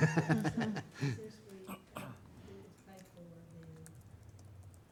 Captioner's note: talking off microphone